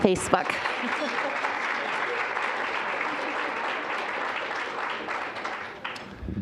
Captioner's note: applause